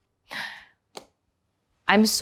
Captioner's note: gasps